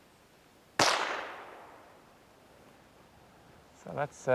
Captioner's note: gunshot